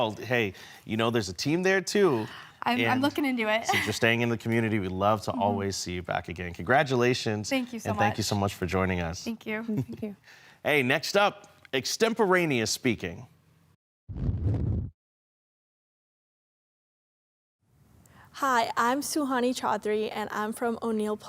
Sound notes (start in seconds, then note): 14.1 silent; 14.1 whoosh